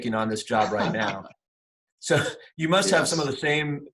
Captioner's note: laughing